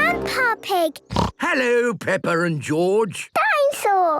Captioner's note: snorts